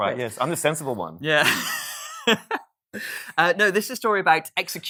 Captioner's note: laughs